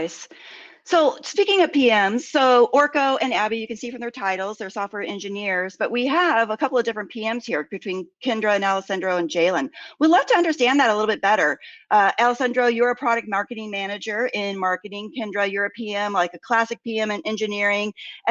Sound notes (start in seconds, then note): none